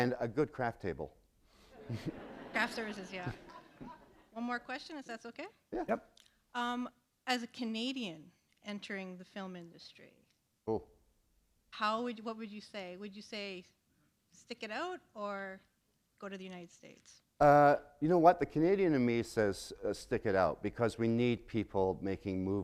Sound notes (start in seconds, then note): 1.7 laughter